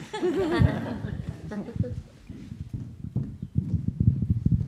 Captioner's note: audience laughs